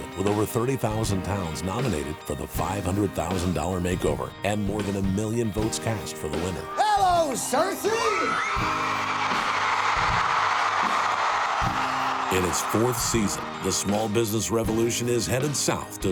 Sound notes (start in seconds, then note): 7.6 crowd cheers